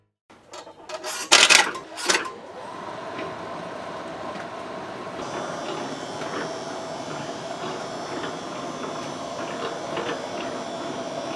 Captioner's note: revving of the machine